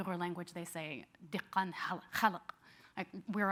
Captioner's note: speaking in a foreign language